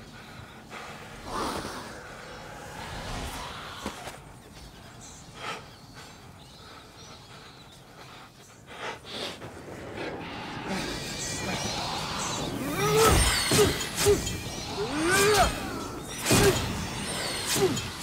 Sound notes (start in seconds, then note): 5.3 breathing shakily; 10.6 creatures screeching; 12.6 grunting